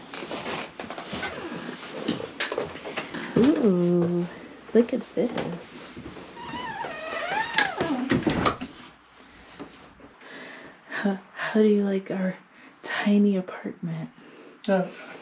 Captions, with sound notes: Ooh. Look at this. (door creaks shut) How do you like our tiny apartment?